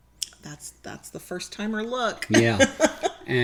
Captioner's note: laughs